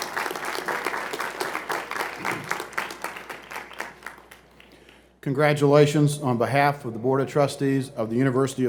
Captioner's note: applause